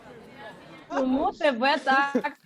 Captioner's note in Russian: Смех